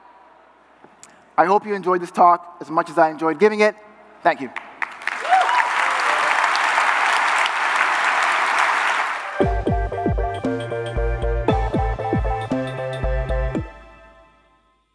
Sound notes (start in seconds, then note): 8.0 applause